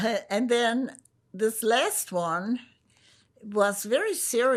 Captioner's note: none